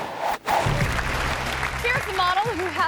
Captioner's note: audience applause